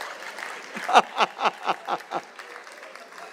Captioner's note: laughs aloud